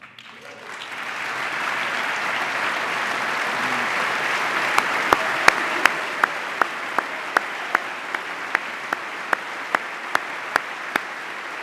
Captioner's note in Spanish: aplauso